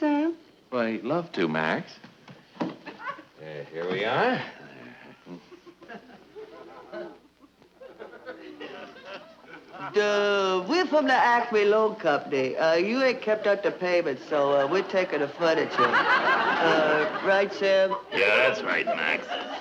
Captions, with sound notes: - Well, I'd love to, Max. Here we are. (audience chuckling) - Dah, we're from the Acme Loan Company. You haven't kept up the payments, so we're taking the furniture. (audience laughing) Right, Sam? - Yeah, that's right, Max.